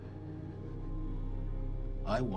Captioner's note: none